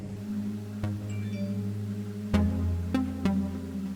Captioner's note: notification dings; pensive synth music